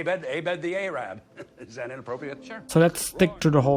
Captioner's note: laughs